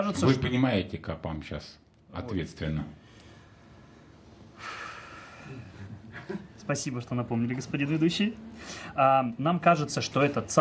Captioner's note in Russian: вздыхает